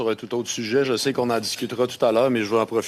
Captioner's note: speaking French